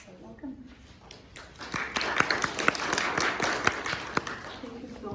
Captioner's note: applause